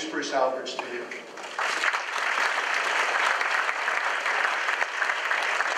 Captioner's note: audience claps